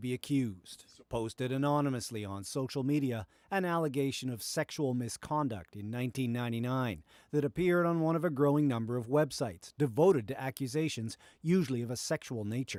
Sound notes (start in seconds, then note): 3.2 speaking french language